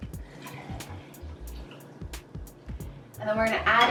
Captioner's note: liquid pouring